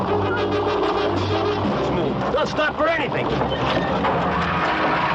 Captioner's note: engines roar